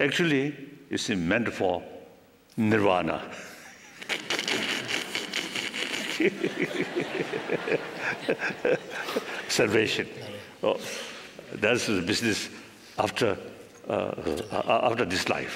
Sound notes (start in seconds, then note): 5.8 laughter